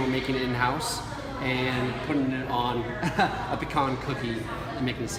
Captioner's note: laughs